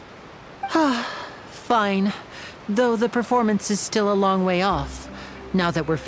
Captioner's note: sigh